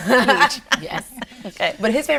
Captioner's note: laughs